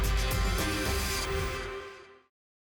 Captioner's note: whoosh